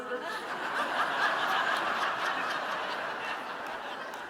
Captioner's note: audience laughing